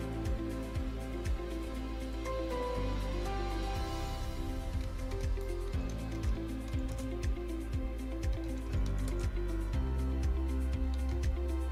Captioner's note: typing